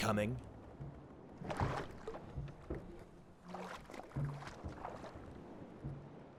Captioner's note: paddling